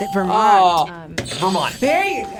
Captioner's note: buzzer squeals